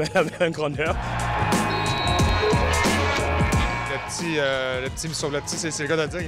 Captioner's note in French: rires